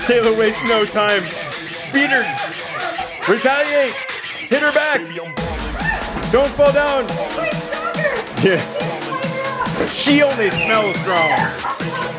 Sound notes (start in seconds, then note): 9.6 murmurs